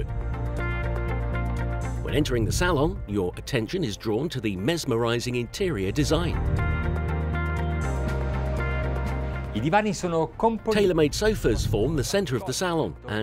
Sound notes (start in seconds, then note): 0.2 serene music; 6.6 serene music; 9.7 speaking in Italian